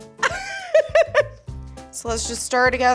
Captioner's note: laughs